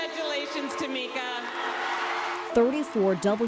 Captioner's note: cheering